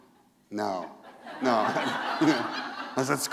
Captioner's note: laughter